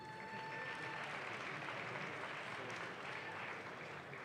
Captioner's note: audience claps